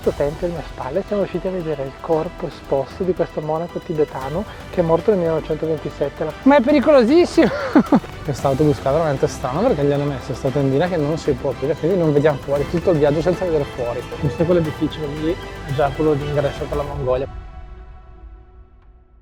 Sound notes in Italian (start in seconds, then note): 7.4 risate